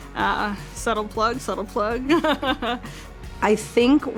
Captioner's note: laughs